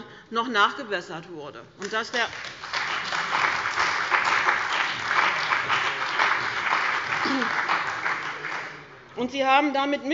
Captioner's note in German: Beifall bei dem BÜNDNIS 90/DIE GRÜNEN und der CDU